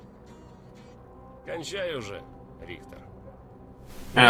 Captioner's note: stalkers greeting in Russian